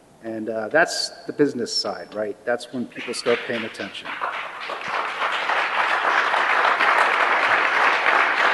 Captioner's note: applause